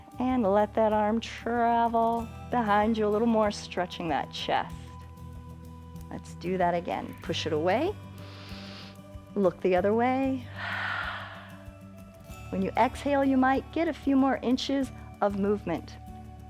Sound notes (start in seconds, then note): 8.2 inhales; 10.4 exhales